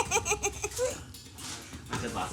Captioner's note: laughs